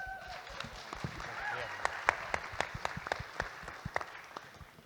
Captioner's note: audience Applauding